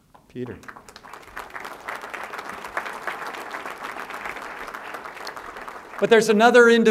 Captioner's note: applause